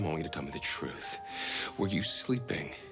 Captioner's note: none